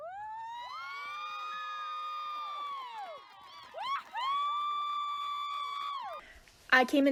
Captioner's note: applause